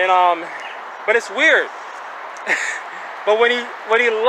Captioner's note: chuckling